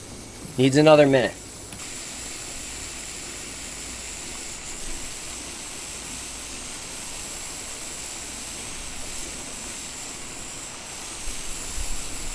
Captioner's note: hissing